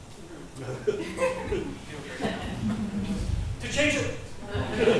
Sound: group laughs

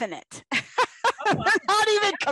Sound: laughter

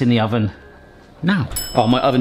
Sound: ping

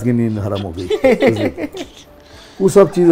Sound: laughed

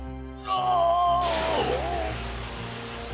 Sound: yells

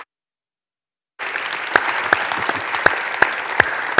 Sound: audience clapping

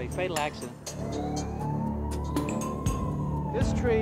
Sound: sirens blare

